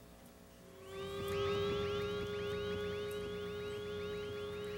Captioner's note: sirens blaring